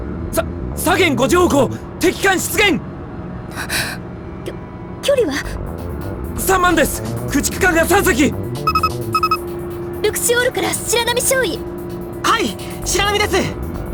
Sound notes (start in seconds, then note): 3.6 panicked gasp